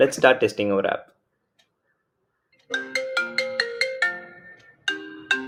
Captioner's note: phone rings